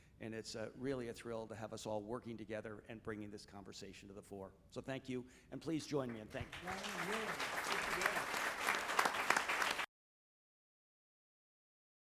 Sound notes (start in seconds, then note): 6.1 audience applauding